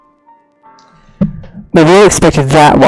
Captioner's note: maintenance worker hitting hammer yet again